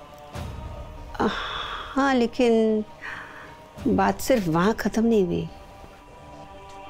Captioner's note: Chief's mother sighs